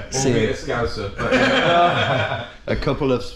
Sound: all laughing

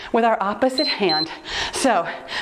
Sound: timer beeps

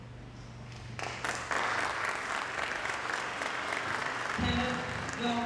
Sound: applause

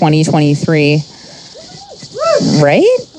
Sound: audience member whooping

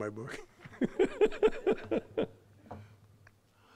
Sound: laughing

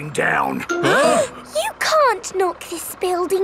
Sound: all gasping

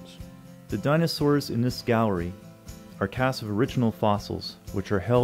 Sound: voiceover

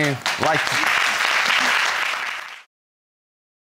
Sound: audience applauding

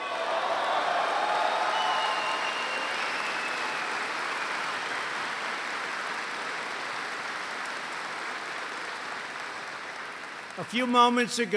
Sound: applause

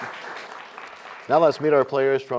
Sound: applause

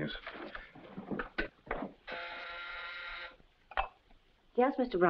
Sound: intercom buzzes

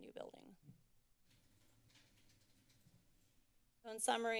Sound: silence

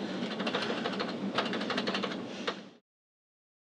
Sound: typing

